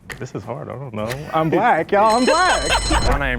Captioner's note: bell rings